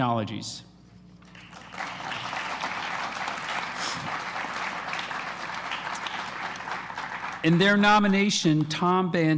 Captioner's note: applause